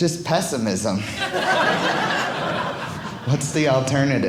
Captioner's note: audience laughing